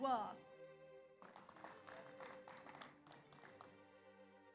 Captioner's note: audience applauds